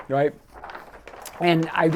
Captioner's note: paper rustling